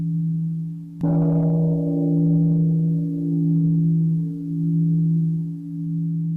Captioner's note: gong